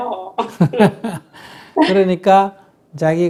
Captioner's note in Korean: 스님과 질문자 웃음